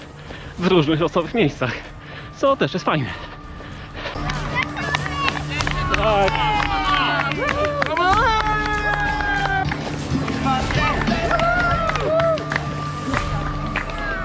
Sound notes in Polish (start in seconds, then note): 7.6 Aplauz